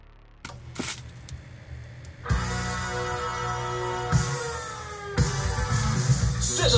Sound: old television noise turning on

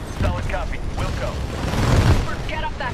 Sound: radio

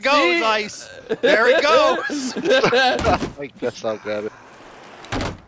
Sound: laughter

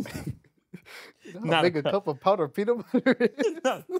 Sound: laughing

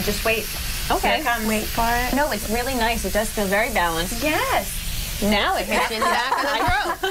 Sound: laughter

